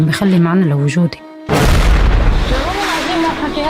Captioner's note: explosion